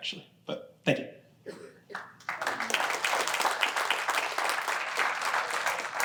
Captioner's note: applause